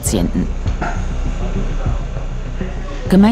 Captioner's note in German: Leises Gemurmel, Surren